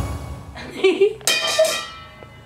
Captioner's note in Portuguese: Laughter e beats